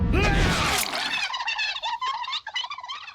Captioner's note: high-pitched chattering